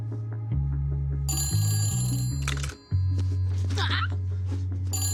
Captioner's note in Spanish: Suena el teléfono